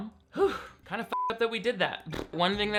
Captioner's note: beep